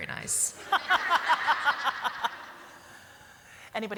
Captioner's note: laughter